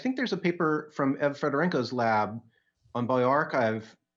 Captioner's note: audio glitch